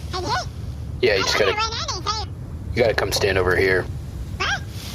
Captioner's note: excited